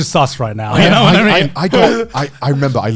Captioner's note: laughing